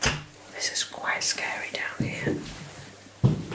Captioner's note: whispering